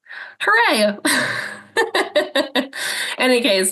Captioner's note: laughs